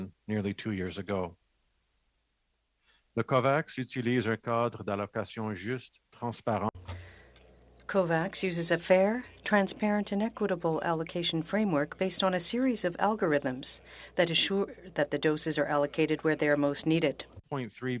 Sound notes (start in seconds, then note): 8.4 speaking French